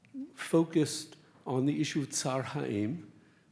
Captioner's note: speaks Hebrew